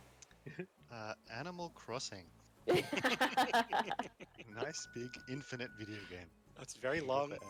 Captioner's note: laughter